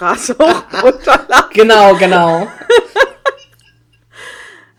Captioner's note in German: lacht